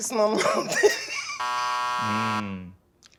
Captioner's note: buzzer